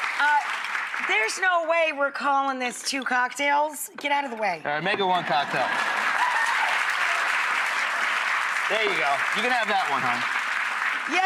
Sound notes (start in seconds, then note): 5.0 cheering; 5.0 laughing; 5.5 clapping